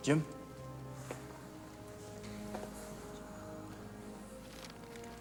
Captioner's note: footstep